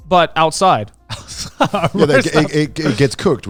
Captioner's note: laughs